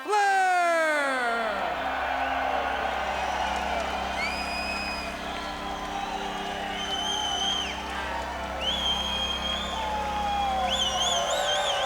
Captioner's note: crowd cheering